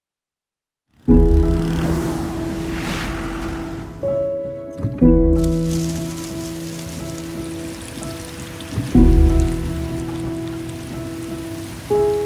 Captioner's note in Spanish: Música de piano; Sonido de agua cayendo